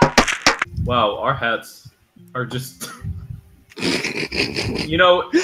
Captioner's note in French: Rires